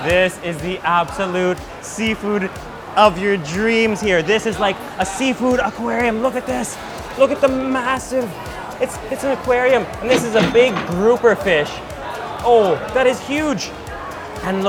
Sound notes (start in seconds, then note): 10.0 register chiming